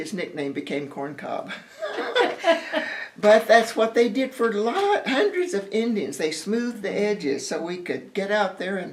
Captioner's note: laughter